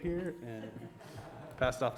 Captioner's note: audience laughs